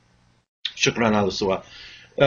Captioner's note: speaking Arabic